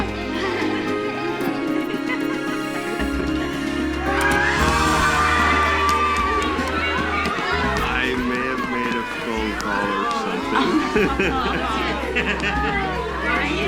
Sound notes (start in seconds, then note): 0.1 laughing; 5.5 cheering; 11.1 laughing